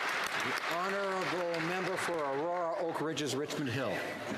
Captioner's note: applause